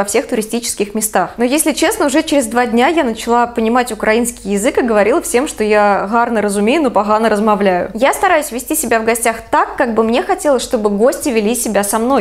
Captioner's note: speaks Ukrainian